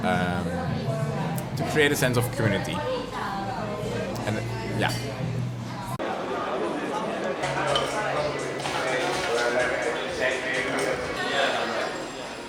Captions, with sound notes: to create a sense of community, and yeah. (bar patrons talking)